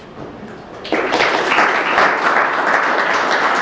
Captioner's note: applause